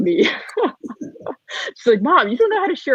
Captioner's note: laughing